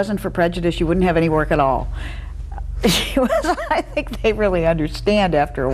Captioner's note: laughs